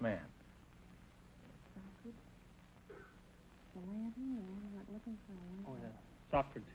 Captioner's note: whispering